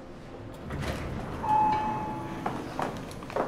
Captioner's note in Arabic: ضربات المصعد